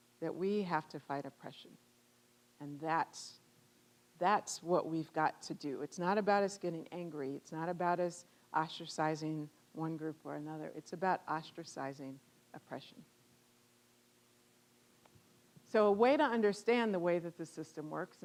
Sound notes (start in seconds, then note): none